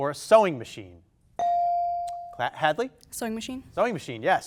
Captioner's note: buzzer dings